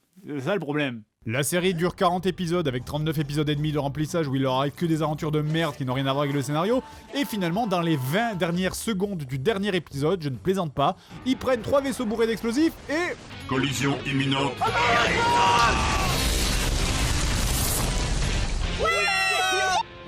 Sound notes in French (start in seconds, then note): 13.3 voix robotique; 14.5 cri; 15.8 mega explosion